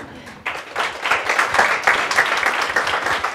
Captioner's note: applause